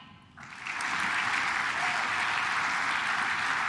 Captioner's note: claps